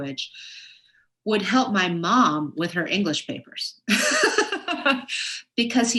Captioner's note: laughs